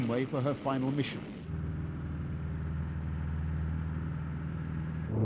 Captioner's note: humming, rumbling